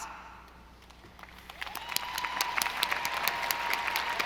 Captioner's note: audience applauding